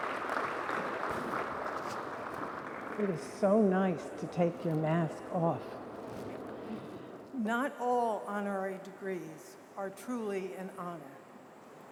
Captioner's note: applause